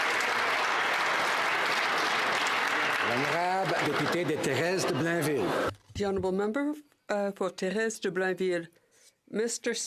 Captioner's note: applause